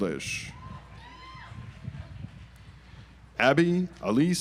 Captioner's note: audience applauds